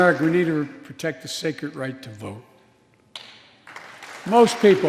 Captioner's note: applause